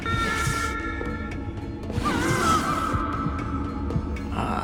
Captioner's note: muffled screaming